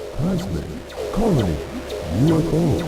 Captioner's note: game audio